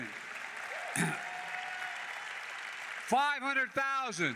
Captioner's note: applause